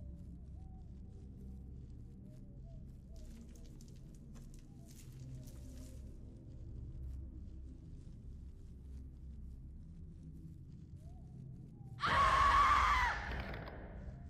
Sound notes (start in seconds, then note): 0.3 eerie music; 12.0 screaming